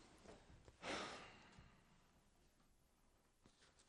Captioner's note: sighing